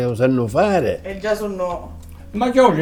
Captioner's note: off-screen voices